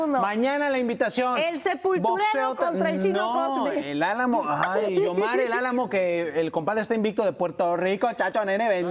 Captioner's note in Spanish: risas